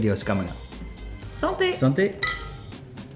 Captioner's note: glass clinking